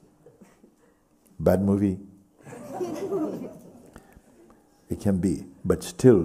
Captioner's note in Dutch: gelach